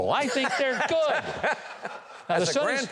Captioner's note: chuckles